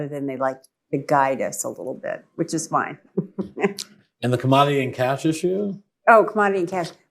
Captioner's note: laughs